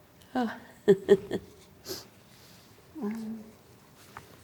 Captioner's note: laughs